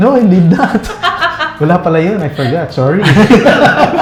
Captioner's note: laughs